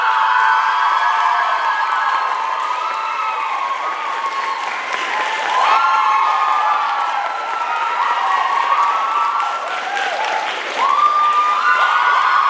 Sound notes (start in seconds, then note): 0.0 applause, cheers